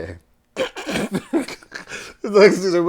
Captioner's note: laughter